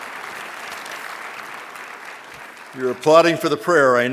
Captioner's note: applause